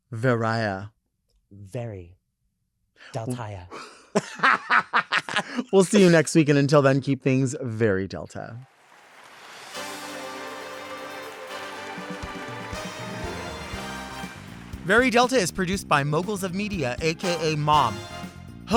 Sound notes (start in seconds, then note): 8.9 audience applauds; 9.7 upbeat music